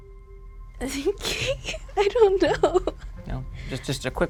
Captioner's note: laughs